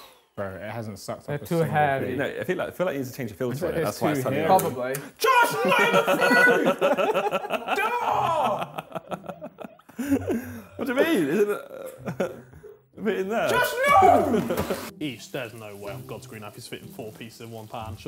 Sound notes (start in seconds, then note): 5.6 laughing